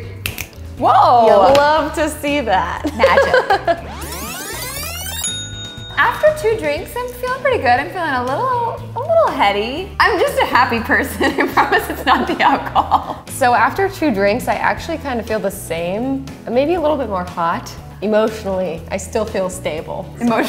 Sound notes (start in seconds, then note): 0.2 snaps; 3.8 tape fast-forwarding; 4.0 bell dings